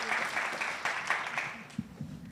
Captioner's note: audience cheers and applauds